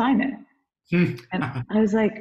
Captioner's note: laughs